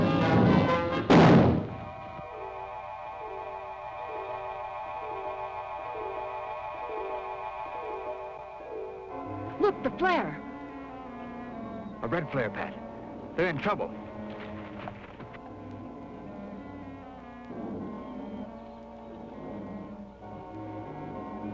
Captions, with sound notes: (shot firing) (gentle music) - Look, the flare. (gentle music) - A red flare Pat. They're in trouble. (footsteps receding) (gentle music) (birds chirping)